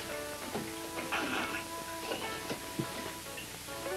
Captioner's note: jill suppresses laughter